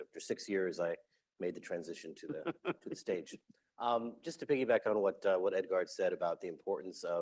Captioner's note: laughter